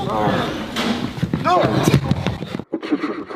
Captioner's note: door closes